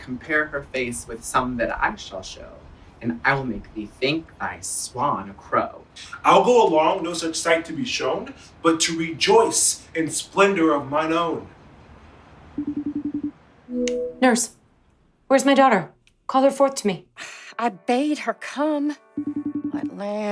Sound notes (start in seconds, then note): 12.6 phone rings